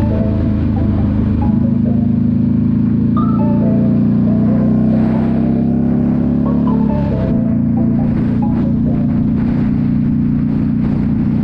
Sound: engine roaring

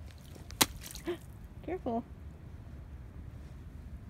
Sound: gasp

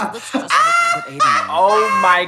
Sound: Trixie laughs

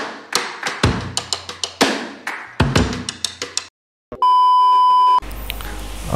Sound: clap

